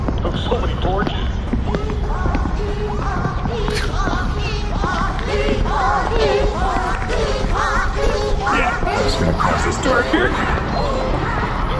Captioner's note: chanting